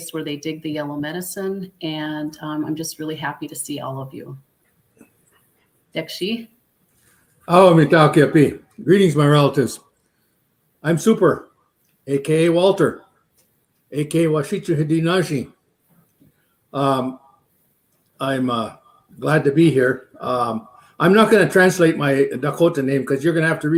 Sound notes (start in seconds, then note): 5.9 speaking Dakota; 8.8 speaking Dakota